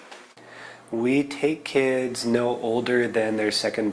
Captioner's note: speaking native language